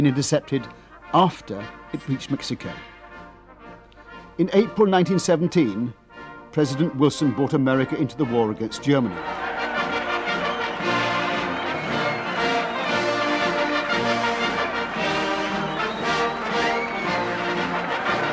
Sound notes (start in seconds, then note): 10.6 cheering; 10.6 patriotic music